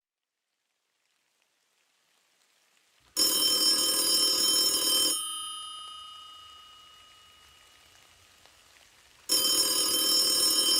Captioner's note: SFX: Phone Rings